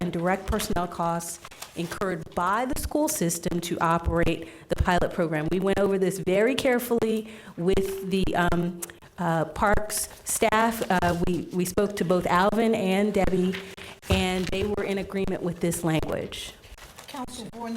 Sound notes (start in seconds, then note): none